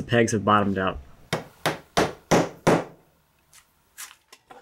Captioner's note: hammer bangs